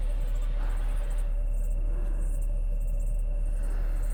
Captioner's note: assailant breathing heavily